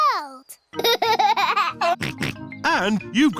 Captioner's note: laughs and snorts